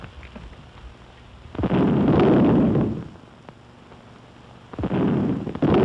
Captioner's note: booming